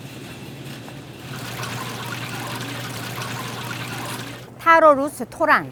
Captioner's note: water flowing